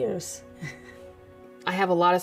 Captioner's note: chuckling